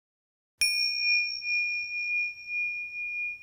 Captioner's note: bell rings